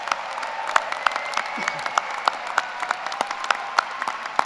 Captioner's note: applause